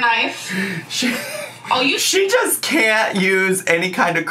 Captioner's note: laughs